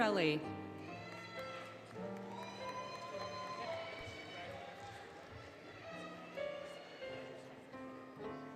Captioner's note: applause, Cheering, Music